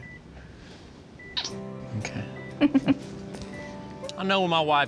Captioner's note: giggles; smooch